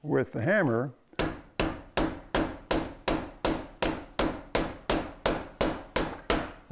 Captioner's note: metal-on-metal clanging